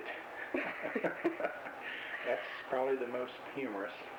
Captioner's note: both laugh